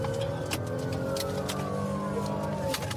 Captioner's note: siren blaring